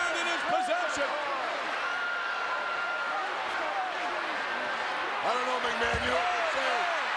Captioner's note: applause